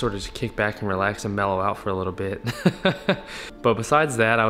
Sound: laughs

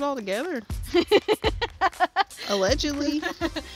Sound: laughs

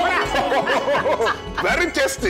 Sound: laughing

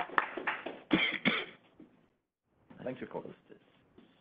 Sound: audience applauding; coughing

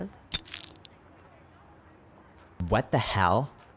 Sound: camera clicking

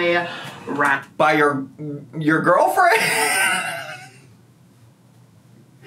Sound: laughing

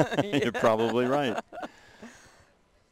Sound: laughter

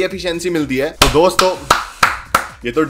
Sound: clapping

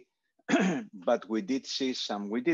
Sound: clearing throat

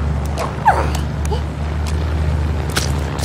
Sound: makes relived noises

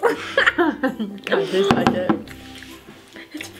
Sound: laughter

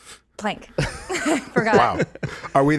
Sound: laughing

